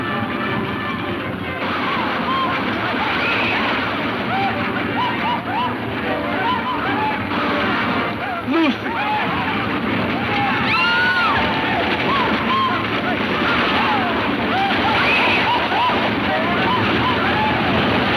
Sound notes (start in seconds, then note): 10.7 woman screams; 13.1 hooves thudding; 13.1 men whooping